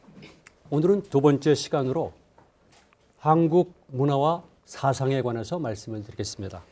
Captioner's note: speaking in Korean